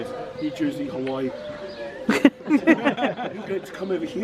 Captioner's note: laughs